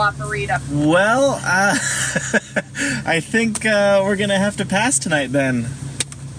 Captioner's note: laughs